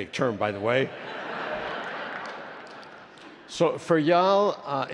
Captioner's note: attendees laughing